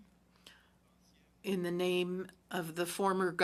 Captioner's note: speaking french